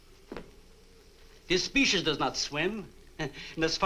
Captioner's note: chuckles